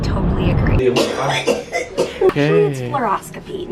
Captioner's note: coughing